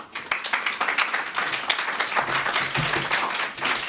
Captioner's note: applause